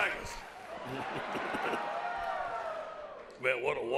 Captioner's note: laughs